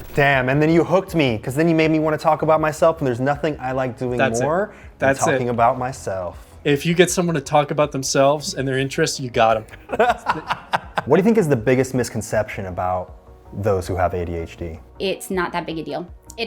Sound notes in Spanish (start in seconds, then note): 9.7 risas